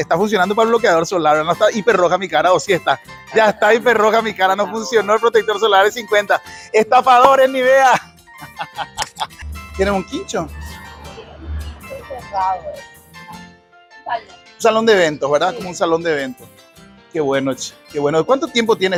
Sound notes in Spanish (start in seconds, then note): 8.3 risas